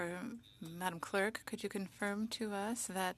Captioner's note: speaking French